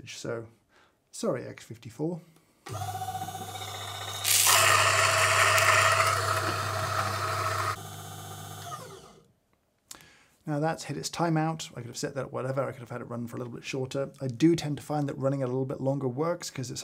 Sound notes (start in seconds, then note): 2.6 grinder humming; 4.3 grinder whirring; 7.8 grinder humming